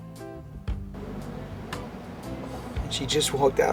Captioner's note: lobby sounds